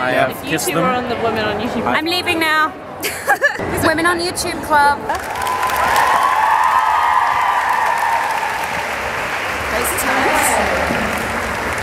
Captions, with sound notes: I have kissed them. - I'm leaving now. (laughs) Women on YouTube club. (audience cheering) Crazy times.